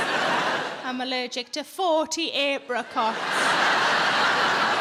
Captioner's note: audience laughs